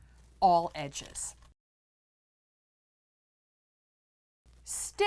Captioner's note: no Sound Present